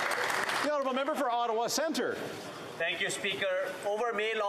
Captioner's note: some Applause